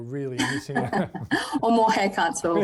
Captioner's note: both laughing